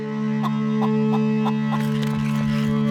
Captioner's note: chicken clucking; gentle music